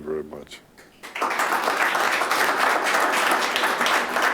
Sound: clapping

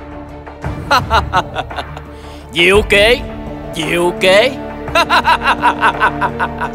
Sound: laughing

